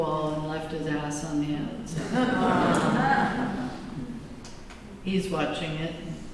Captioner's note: laughter